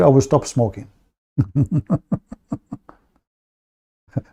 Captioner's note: Ketawa